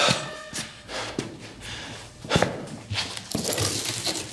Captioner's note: eerie music; Brown huffing